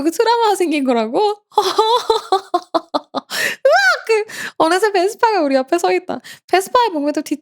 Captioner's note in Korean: 웃음